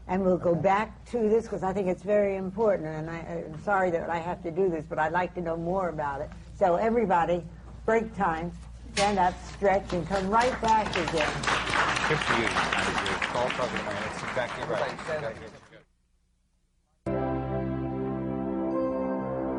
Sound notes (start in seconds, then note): 13.7 applause